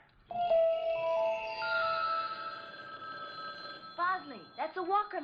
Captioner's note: telephone rings